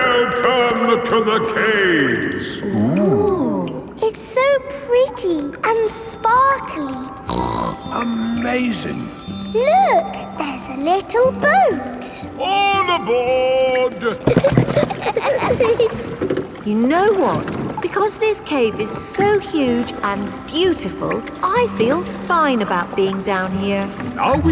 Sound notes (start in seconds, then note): 7.2 snorts; 14.0 giggling